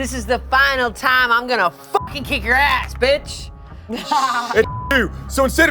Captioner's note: beep